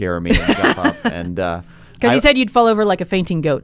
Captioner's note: laughs